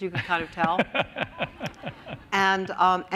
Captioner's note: laughter